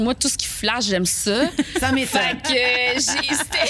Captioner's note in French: rires